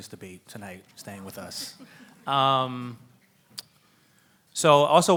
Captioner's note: laughs